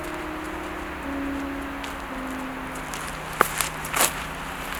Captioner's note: footsteps crunching